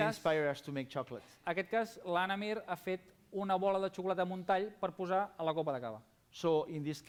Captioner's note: non-english speech